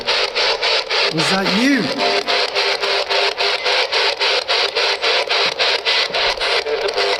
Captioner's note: hissing intensifies